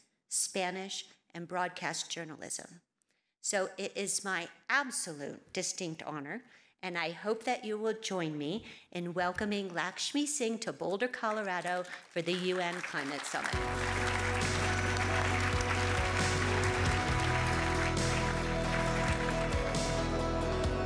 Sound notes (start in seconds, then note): 14.6 audience applauding; 17.8 uplifting music